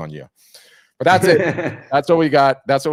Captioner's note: laughing